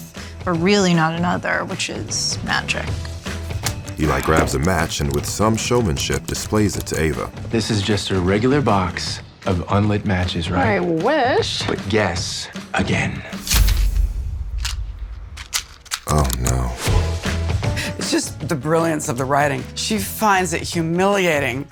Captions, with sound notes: but really not another, which is magic. (NARRATOR READING) This is just a regular box of unlit matches, right? -I wish. -But guess again. (NARRATOR READING) It's just the brilliance of the writing. She finds it humiliating